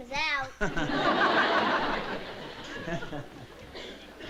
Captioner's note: laughs